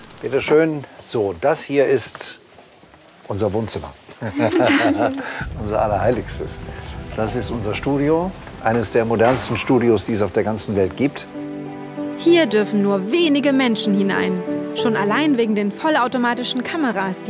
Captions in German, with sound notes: Bitte schön. So, das hier ist ... unser Wohnzimmer. (Er lacht.) Unser Allerheiligstes. Das ist unser Studio. Eines der modernsten, die es auf der ganzen Welt gibt. Hier dürfen nur wenige Menschen hinein. Schon allein wegen den vollautomatischen Kameras,